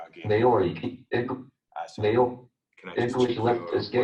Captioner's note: JAWS speaking